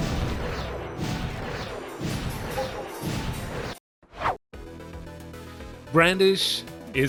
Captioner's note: whoosh